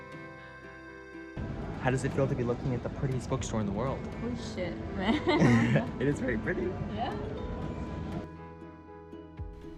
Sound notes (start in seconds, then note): 5.0 laughs